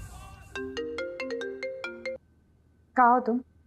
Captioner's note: Phone ringing